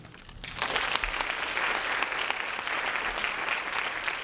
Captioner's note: applause